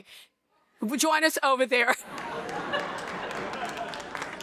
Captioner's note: laughs